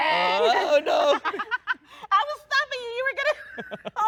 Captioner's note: laughs